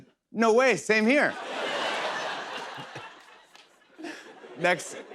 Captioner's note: laughter